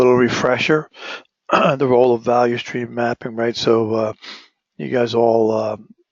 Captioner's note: cough